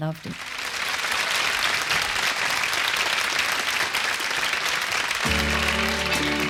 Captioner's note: crowd applause